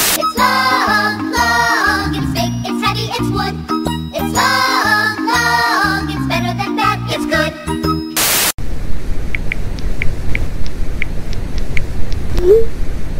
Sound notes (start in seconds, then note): 8.6 space wormhole sound; 8.6 typing sounds on smarthphone